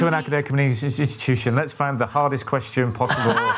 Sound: laughter

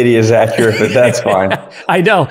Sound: laughs

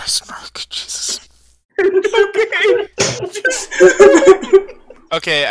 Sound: laughs

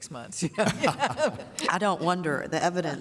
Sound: laughter

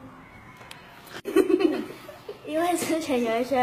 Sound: laughing

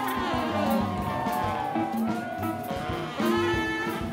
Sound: applause

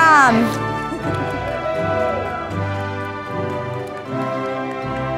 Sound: audience applauding

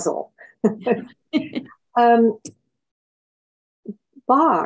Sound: both laughs

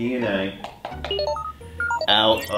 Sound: electronic beeping

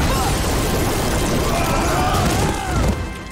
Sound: screaming

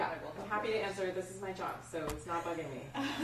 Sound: group laughs

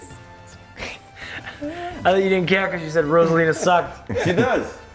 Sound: laugh

